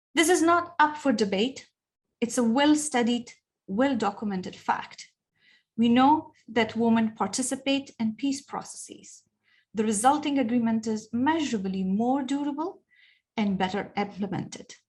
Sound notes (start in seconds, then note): none